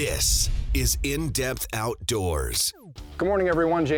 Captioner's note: voiceover